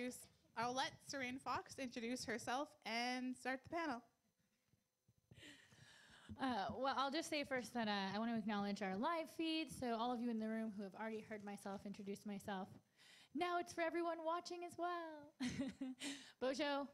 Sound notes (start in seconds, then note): 15.4 chuckles